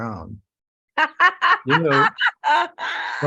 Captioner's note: laughter